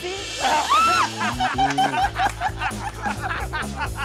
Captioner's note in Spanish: Risas